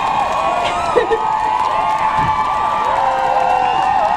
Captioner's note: laughs out loud